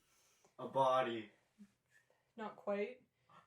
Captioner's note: gasp